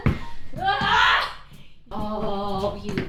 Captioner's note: screams